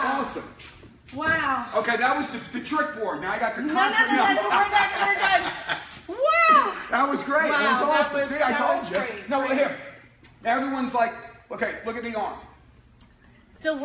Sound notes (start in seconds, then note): 4.2 laughing